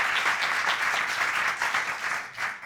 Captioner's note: audience applauding